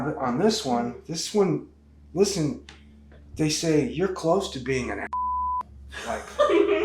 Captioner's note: beeps